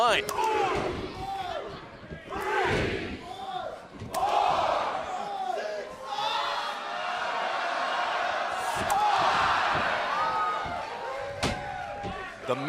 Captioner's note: crowd cheering